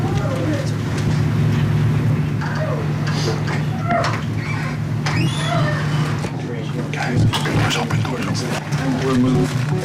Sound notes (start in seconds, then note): 3.4 door creaks